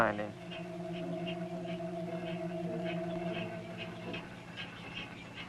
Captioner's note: miller grinding